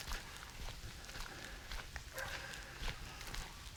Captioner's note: horses galloping